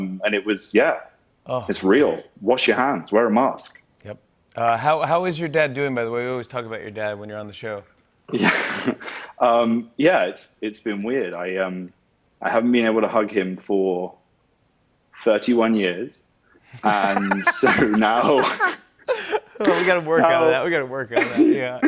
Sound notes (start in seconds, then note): 8.3 chuckles; 16.6 laughs